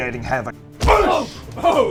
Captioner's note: boosh!